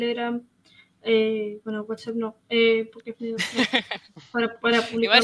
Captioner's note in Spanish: risas